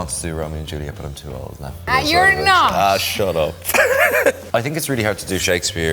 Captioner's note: laughs